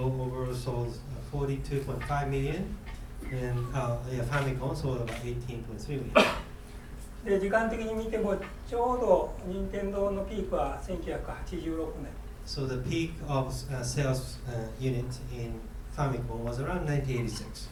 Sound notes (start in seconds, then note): 6.1 coughing; 7.4 speaking in foreign language